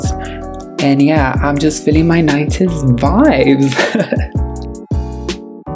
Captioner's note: giggles